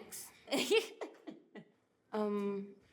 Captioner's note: laughs